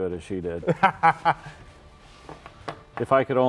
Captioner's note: laughs